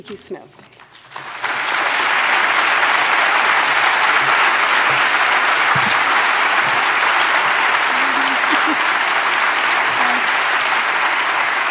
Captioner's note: applause